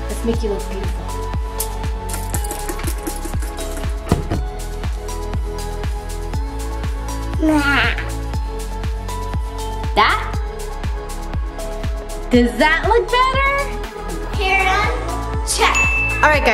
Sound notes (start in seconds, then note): 2.0 bottle spraying; 7.4 laughs